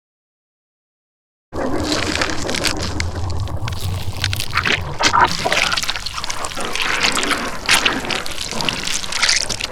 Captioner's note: loud splashing